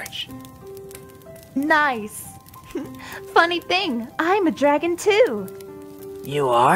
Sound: chuckle

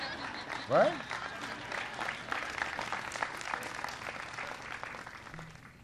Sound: laughter and applause

